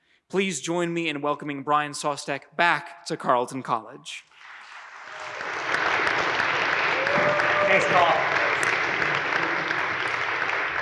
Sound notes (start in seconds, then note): 4.3 audience applauds